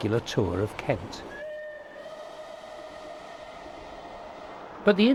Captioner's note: train passes